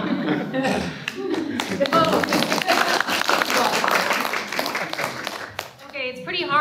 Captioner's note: applause